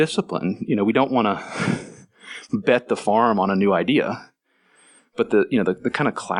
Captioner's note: laughs